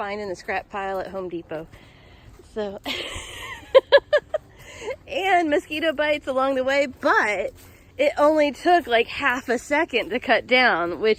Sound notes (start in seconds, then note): 2.8 laughs